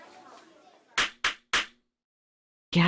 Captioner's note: clap clap clap